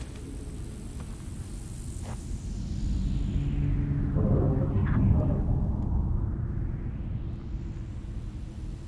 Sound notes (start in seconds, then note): 2.4 desert sounds intensify then all get sucked out